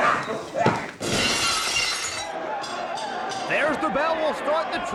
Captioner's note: glass shatters